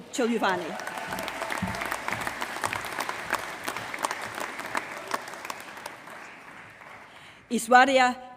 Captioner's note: applause